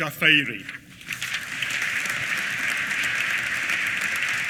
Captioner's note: applause